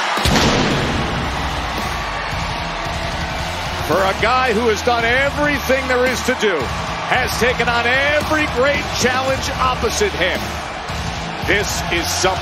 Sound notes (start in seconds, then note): 8.4 cheers and applause